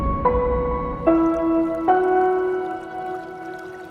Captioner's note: water rippling